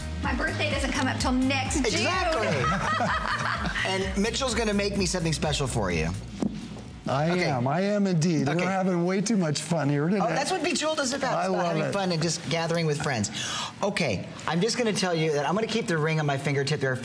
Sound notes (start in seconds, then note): 4.1 laughter